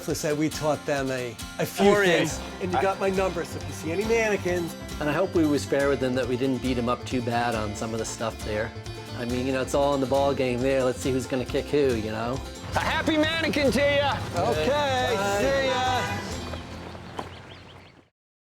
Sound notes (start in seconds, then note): 16.0 honks horn